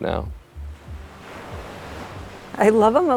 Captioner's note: waves crashing